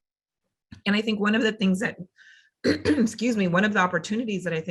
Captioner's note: coughing